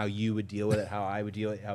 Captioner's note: participant chuckling